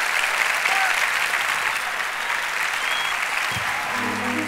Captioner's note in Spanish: Aplausos